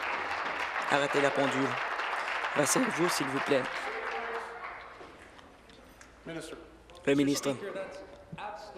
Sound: applause

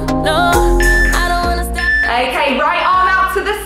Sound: timer beeping

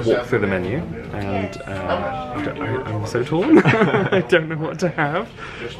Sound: laughs

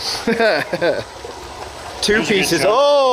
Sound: laughing

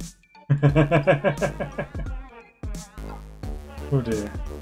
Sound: laughs

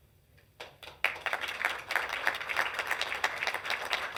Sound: applause

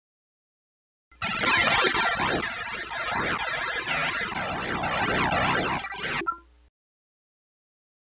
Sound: scary sound

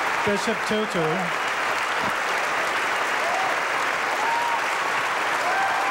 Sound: audience applauding

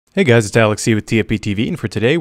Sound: voiceover

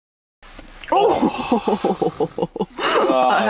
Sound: both laughing

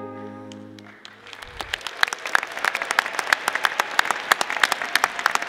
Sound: audience applauding

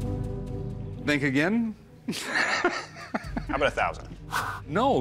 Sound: tense music playing; laughs

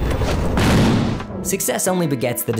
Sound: bang

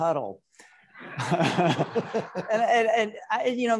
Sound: all laughing

